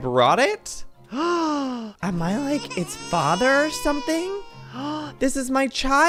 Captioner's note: gasp; crying baby noise plays in the background; gasps